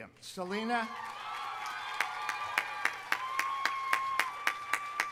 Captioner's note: audience applauding